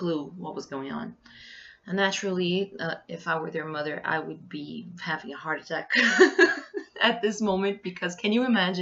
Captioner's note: laughs